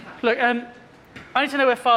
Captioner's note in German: none